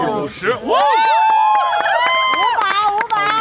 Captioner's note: cheers